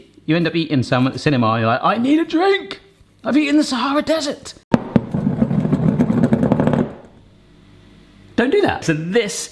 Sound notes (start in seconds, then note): 4.8 bowl rumbling